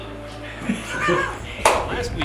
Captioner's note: laughter